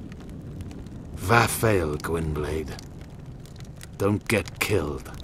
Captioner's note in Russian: "Прощай, белый волк" - по-эльфийски